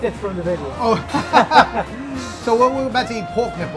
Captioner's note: both laugh